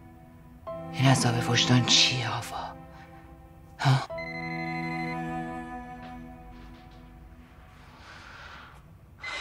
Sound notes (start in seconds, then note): 4.1 phone ringing